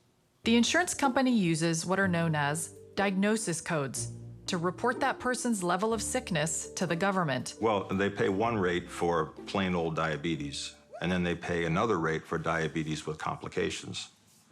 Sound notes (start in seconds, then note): none